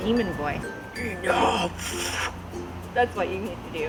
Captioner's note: deep voice